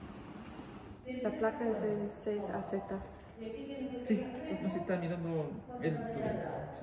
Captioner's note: in Spanish